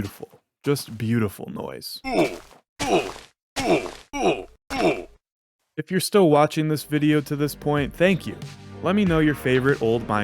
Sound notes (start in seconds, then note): 1.8 minecraft old oof sound montage